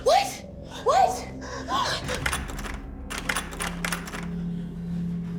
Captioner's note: doorknob rattling